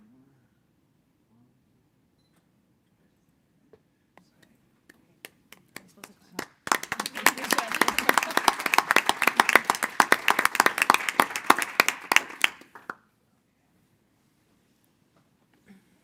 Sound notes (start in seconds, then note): 6.4 board applauding